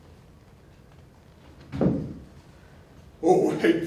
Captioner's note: footsteps